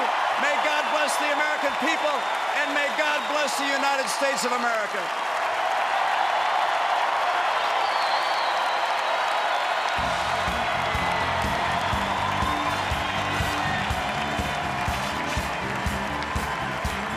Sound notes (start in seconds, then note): 6.0 applause; 14.7 applause and music